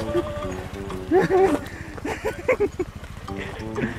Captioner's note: laughter